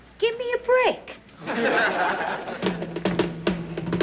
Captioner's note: laughter